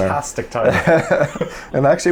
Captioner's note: both laugh